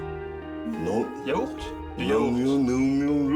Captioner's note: he’s mumbling the same vaguely French ligature